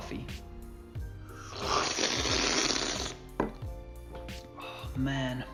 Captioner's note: slurping